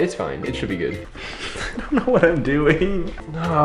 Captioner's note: chuckles